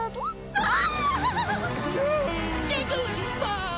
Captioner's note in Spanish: gritos